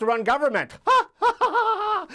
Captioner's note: laughs